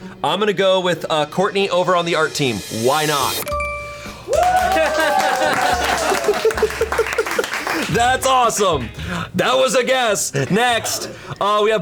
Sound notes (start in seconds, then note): 4.2 colleagues applauding